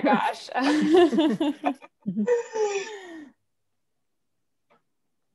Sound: laughter

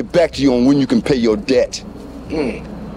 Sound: Biggie grunts

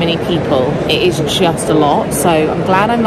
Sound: people chattering

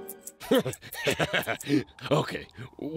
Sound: laughs

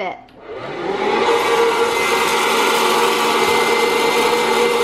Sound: whirring

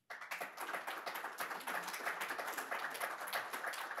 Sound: audience applauds

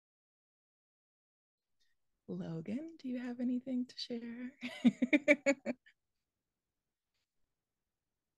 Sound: laughs

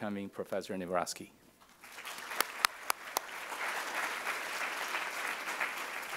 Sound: applause

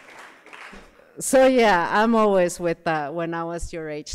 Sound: applause

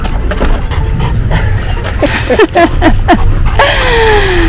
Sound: laughs

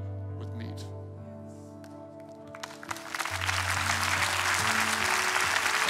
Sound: congregation clapping

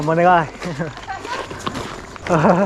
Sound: laughs

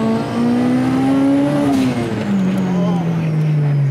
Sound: car engine revving

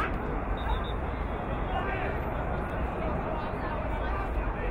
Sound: whistle blowing

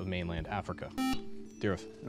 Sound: buzzer

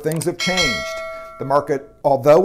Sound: bell ringing

